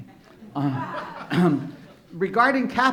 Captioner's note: laughing